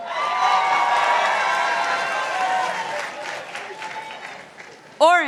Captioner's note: participants applauding